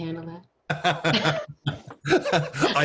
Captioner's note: laughing; laughing drowns out speaker